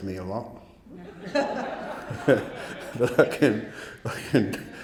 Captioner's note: audience laughing